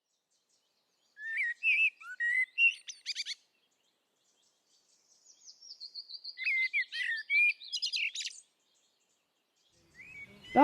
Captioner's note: bird song